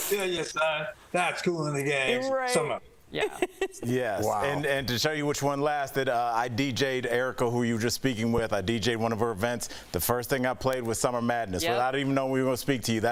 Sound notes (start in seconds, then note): 3.2 laughter